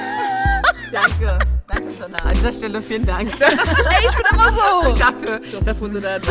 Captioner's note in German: Gelächter